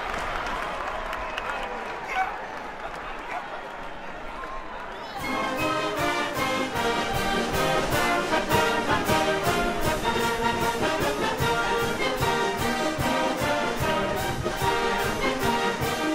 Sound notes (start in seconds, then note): 1.6 cheers and applause